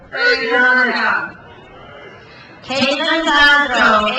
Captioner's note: crowd cheers